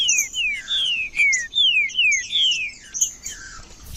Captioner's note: trinca ferro cantando